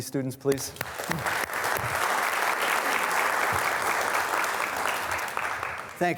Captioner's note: students applauding